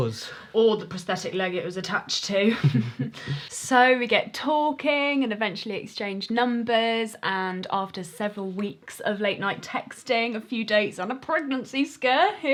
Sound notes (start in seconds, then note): 2.4 they laugh